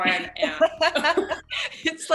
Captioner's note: laughing